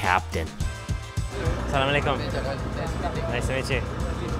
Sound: speaks foreign language

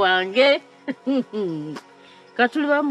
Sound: chuckles

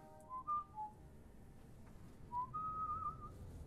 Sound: whistling

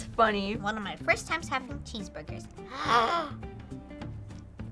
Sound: inhales deeply

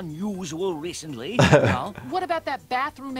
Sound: laughing

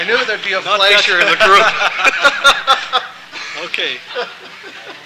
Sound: laughter

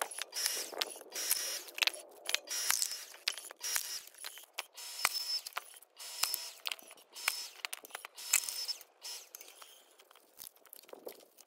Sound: electric wood splitter sound

